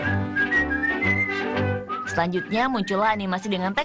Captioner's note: whistling; playful music